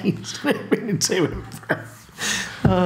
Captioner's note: laughing